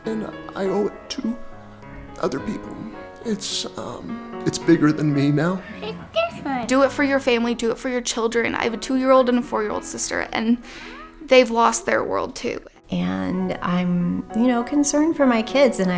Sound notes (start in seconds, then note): 5.3 children talking